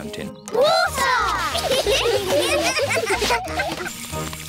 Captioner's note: laughter